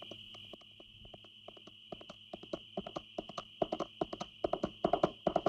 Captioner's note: hooves clopping